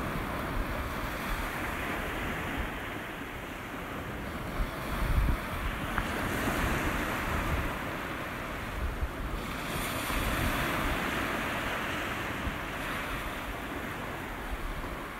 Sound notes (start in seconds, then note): 6.5 sea crashes